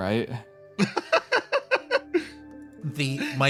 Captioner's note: laugh